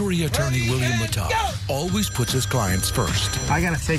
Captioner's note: phone ringing